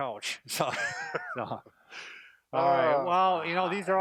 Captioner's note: men laughing